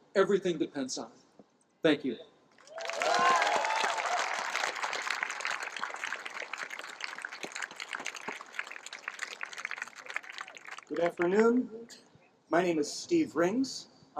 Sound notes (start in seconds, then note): 3.5 cheering, applause